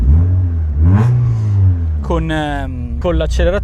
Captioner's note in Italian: rombo del motore